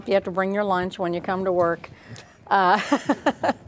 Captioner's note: laughing